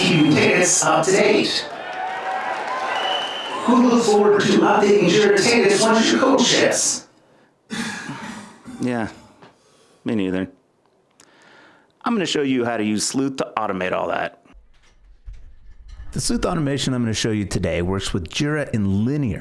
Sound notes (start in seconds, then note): 0.0 weak applause; 7.1 silence; 7.7 cough